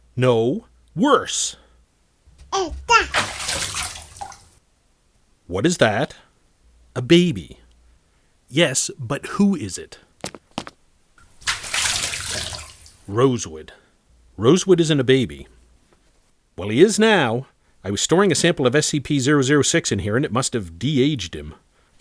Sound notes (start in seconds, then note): 2.5 baby gibberish; 2.5 water splashing